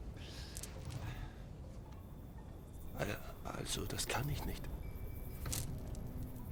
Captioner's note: Mongolisch